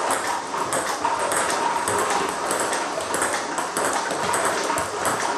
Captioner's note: ball ping pong hitting continues